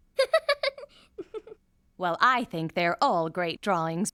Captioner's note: laughing